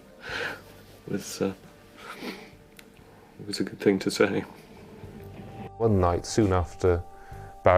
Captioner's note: chuckles